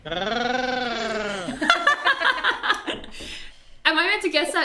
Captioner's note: all laugh